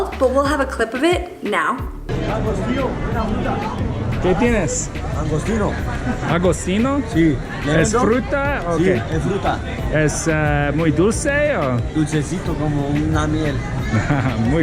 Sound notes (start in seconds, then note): 2.1 speaking foreign language